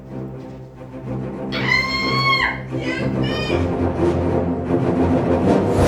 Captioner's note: ahh!